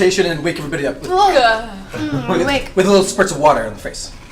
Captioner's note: grunts